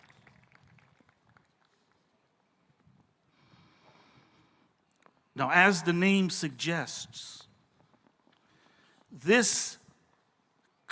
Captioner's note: applause